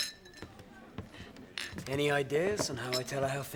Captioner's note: glasses clinking